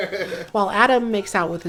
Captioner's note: laughter